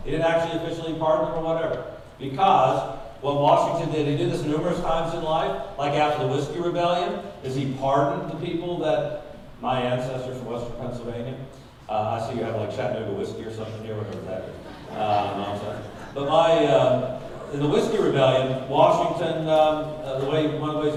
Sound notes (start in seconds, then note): 14.5 audience laughing